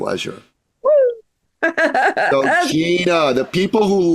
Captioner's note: laughs